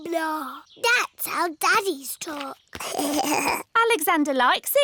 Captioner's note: alexander giggles